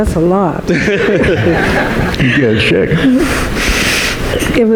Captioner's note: laughing